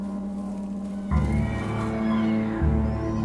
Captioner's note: horses neighing